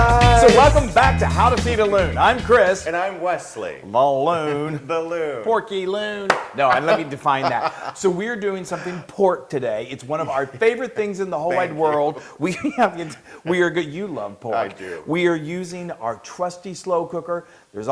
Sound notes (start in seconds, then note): 6.6 laugh; 11.4 laugh